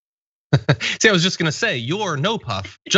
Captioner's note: laugh